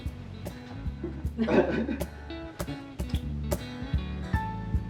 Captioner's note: laughing